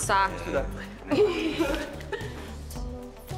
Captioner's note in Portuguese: risos